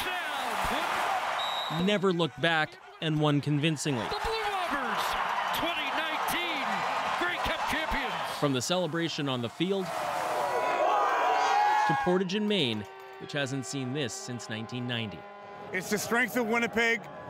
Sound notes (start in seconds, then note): 2.0 cheers and Applause